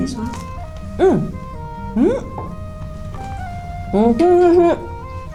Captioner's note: laughs